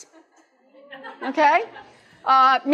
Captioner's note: laughter